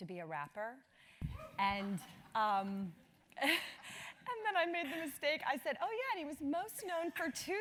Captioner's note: laugh